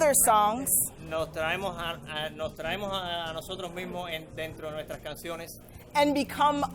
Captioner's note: interpreter speaking in foreign language